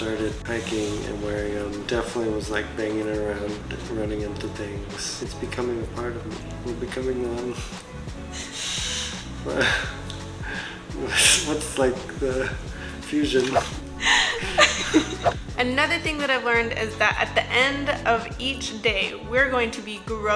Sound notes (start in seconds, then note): 10.0 laughs; 14.0 me, laughs